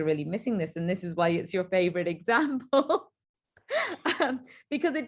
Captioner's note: light laughter